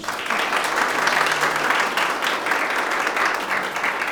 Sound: audience applause

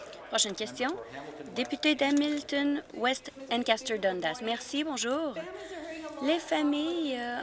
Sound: some Applause

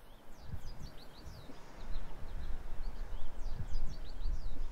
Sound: birds chirping

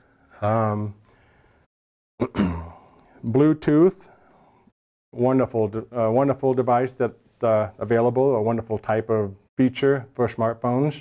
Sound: cough

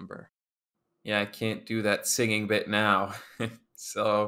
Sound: chuckles

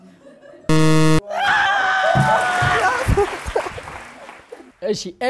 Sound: scream and applause

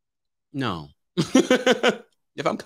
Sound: laughs

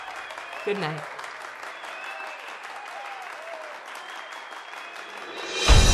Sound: audience cheers and applauds; dramatic instrumental music

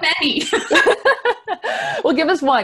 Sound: laughs

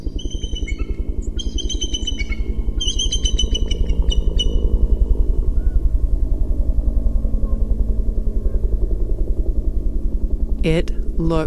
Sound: piercing bald eagle call, insistent “thwap-thwap” of a helicopter

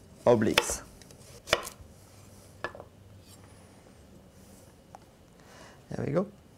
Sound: slicing sounds

